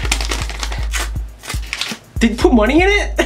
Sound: frantic letter opening; careful letter opening

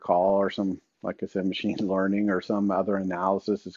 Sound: chuckles

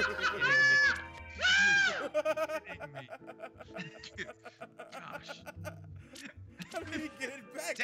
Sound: laugh

